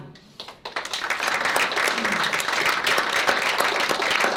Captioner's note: applause